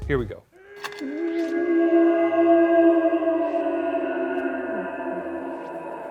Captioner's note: demonic creatures howling